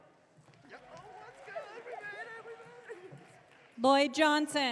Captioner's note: audience cheering